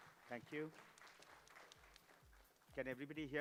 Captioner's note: applause